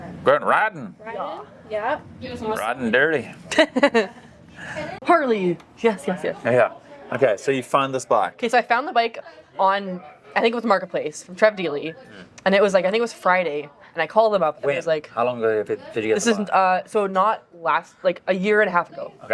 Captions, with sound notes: - We're riding. - Riding? - Yeah. - Riding dirty. (laughing) - Harley, yes, yes, yes. - Yeah, okay, so you found this bike. - Okay, so I found the bike on, I think it was a marketplace, from Trev D'ly, and it was like, I think it was Friday, and I called him up, and I was like-- - How long did it, did you get the bike? - So not a year and a half ago.